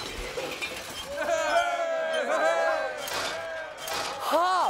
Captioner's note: crowd cheering